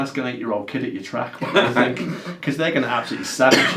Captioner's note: laughs